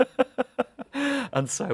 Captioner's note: laughter